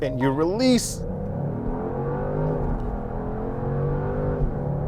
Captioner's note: car engine roaring